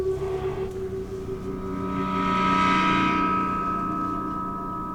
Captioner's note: feedback-like drone